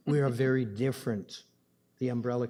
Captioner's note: laughing